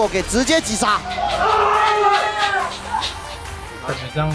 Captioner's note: CFO staff cheering